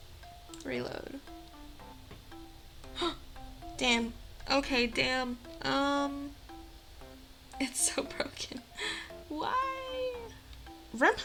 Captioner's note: gasp